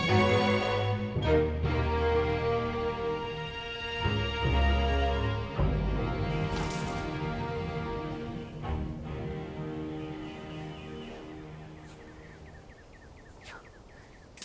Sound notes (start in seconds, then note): 10.2 birds chirping